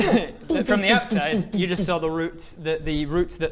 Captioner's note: bang bang bang bang bang bang